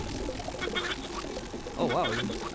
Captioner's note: bzzzzzzzzzzzzz